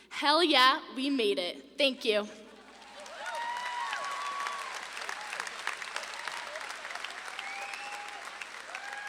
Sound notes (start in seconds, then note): 2.6 audience claps and cheers